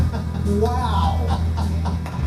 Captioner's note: laughter